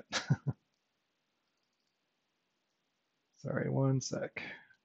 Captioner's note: chuckles